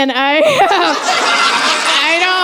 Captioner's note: laughter